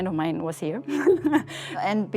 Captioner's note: chuckling